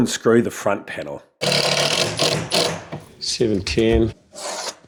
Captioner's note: electric drill sound